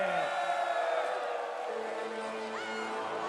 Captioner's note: crowd cheering